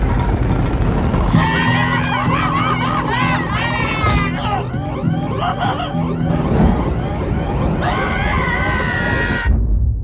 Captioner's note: screaming, guitar noises, utter Chaos